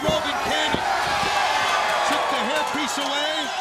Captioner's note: crowd cheering